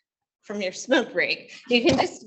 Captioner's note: laughs